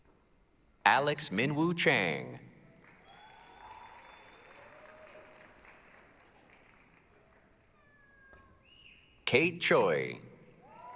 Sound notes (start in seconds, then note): 2.7 applause, cheering